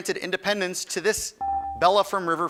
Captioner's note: buzzer dings